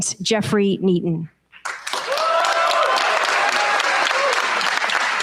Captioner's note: cheers, applause